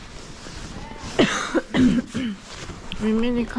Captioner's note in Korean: 콜록콜록